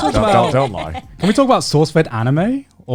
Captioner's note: laughing